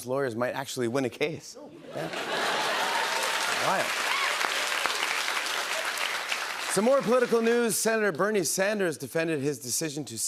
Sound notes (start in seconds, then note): 4.8 cheers and applause